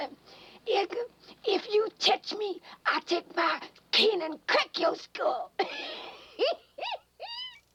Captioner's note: laughing